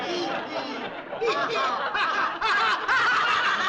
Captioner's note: forced laughter